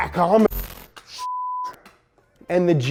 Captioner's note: beep